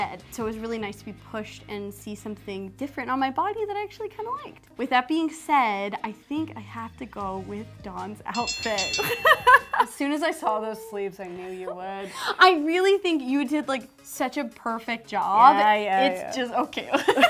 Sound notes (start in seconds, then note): 8.3 bell dings; 9.0 laughs